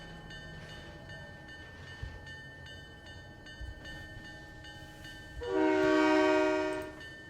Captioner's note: train whistle